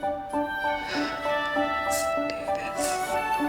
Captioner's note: Diane sighing